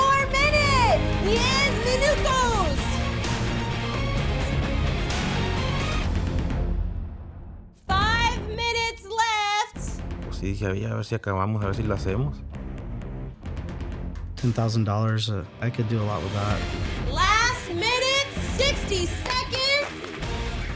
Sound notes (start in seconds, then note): 1.8 speaking Spanish; 5.5 intense music